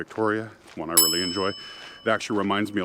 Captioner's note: ding